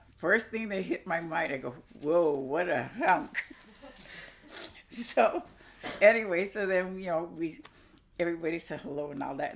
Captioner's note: laughs